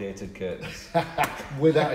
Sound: laughing

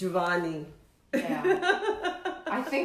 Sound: chuckles

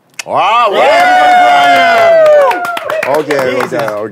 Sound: sound of cheering

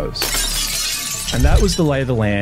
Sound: glass smashing

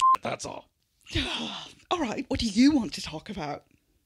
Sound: sighing

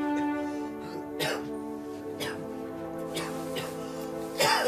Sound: Samuel coughing

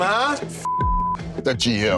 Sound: beeping

